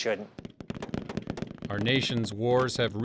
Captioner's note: gunshots